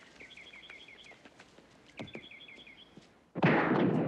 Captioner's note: gunshots